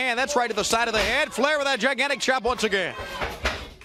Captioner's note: crowd cheering